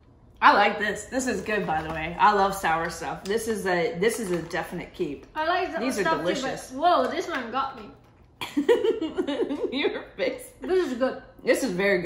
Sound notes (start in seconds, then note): 8.4 laughing